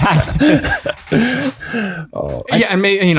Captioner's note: all chuckle